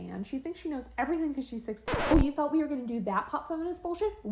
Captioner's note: record scratch